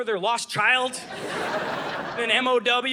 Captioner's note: audience laughing